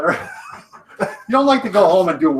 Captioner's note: both laughing